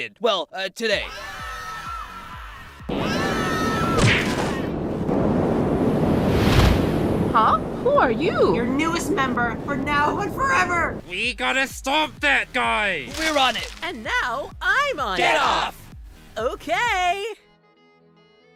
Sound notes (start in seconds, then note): 1.0 distant screaming; 2.9 screaming